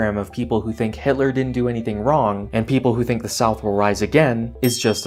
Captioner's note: ding